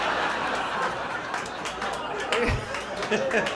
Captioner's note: laughter